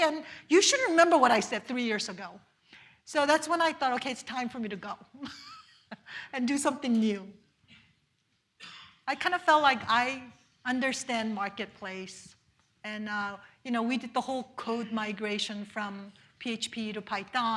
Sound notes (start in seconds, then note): 5.2 laughs